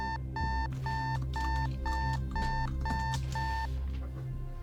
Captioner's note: keys clacking